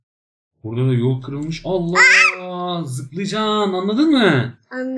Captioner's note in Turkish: bAĞIRMA SESİ